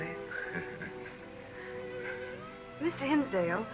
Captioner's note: laughs